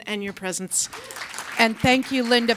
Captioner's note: audience applauds